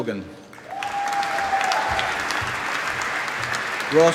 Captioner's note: applause